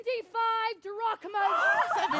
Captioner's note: crowd exclaims